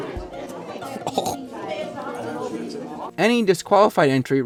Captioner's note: gagging